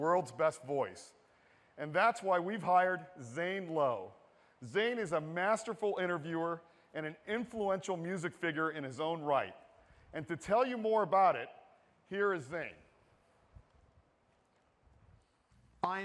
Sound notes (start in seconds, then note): none